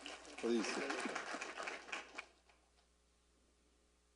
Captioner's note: applause